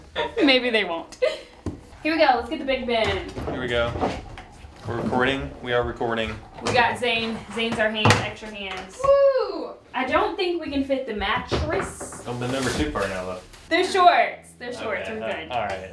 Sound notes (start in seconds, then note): 9.2 wooing